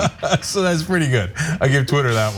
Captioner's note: laugh